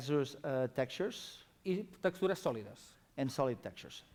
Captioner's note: non-english speech